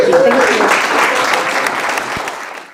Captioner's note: applause